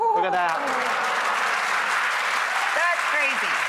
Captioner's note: applause